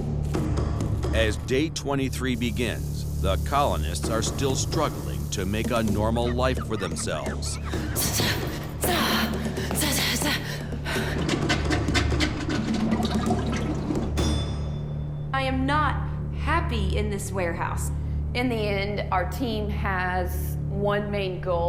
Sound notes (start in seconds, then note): 7.9 grunting; 11.8 water trickles